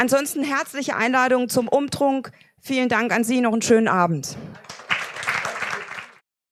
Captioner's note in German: applaus